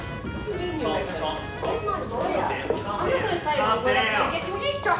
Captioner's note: commotion